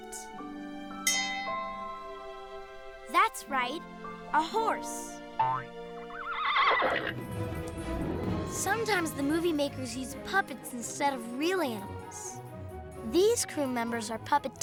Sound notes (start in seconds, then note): 6.0 neighs